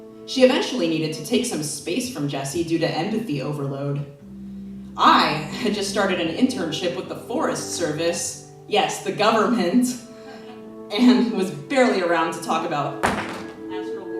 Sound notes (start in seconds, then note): 10.2 laughs